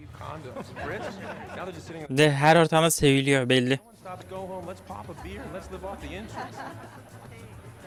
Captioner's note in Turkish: kahkaha